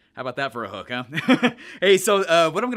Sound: laughing

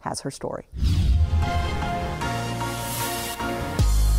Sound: whoosh

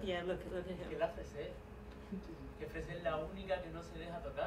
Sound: non-english speech

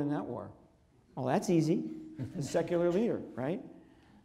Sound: audience laughs

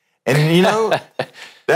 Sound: laughter

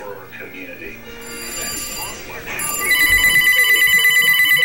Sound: phone ringing

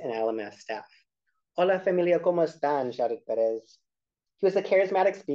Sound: speaking spanish

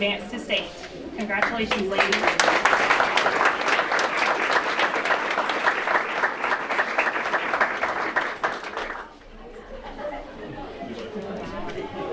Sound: applause

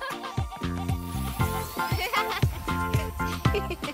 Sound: laughing

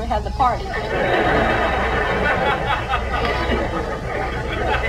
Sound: audience laughs

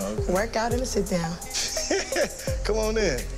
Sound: chuckles

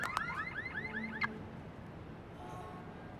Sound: car alarms stop

